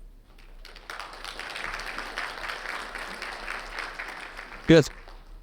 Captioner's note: audience clapping